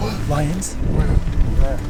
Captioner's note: gasping happily